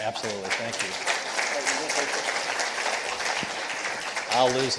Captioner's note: participants applauding